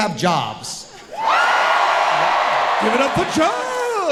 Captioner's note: audience cheering loudly